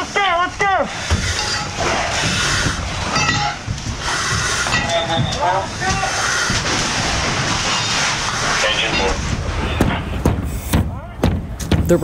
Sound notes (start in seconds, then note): 3.0 tools clanking; 8.9 pike pole thudding